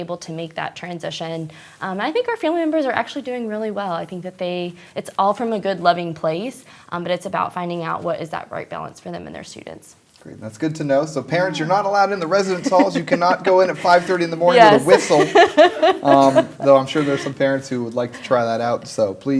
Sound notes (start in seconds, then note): 14.6 laughter